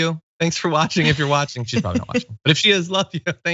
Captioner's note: laugh